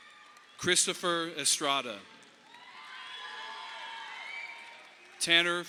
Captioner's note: audience applauding